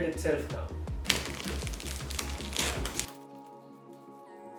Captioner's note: plastic peeling